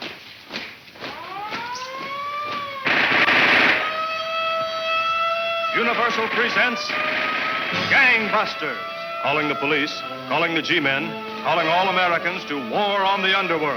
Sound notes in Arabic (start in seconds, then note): 1.8 صافرة الإنذار تنطلق; 2.8 إطلاق النار